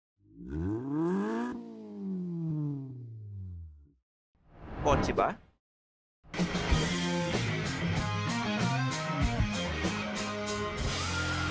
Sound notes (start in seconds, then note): 0.2 engine revs